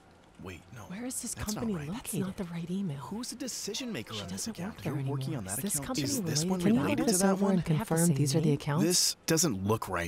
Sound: frustrated whispering

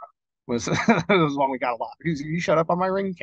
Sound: laughing

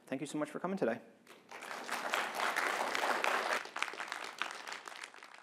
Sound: applause

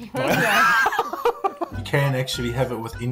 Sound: both laugh

